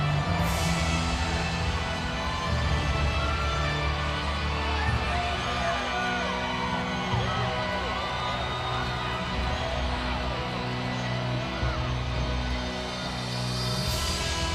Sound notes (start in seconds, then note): 5.0 crowd cheering; 5.0 upbeat music continues